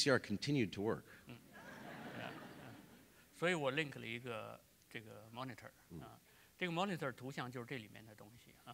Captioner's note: speaking in Chinese; laughter; speaking in Chinese